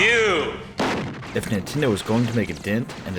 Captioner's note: multiple gunshots